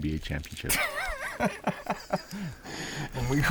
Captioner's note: laughing